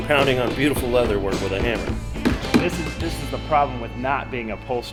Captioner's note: hammer banging